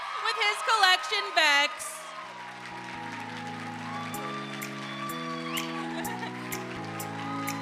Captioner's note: audience applauding; audience cheering; upbeat music